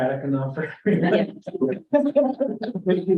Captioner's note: laughter